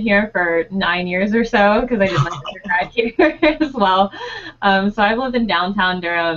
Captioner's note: laughing